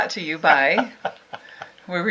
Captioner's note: laughing